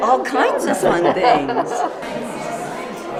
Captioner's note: laugh